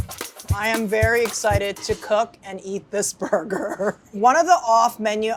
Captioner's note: up-tempo percussive jazzy music; laughs